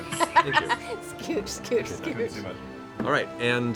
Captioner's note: laughs